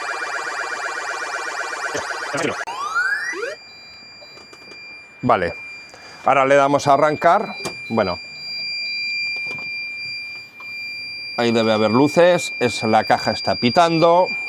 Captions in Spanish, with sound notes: Vale, ahora le damos a arrancar. Bueno, [campana] ahí debe haber luces. Es la caja está pitando.